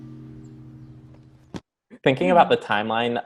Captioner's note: phone drops